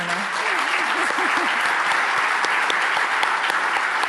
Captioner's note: audience applauds